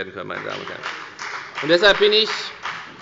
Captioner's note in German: Beifall bei der FDP